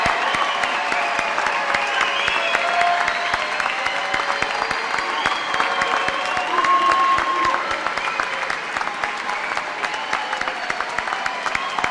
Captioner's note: cheers and applause